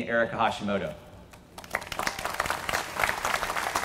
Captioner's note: applause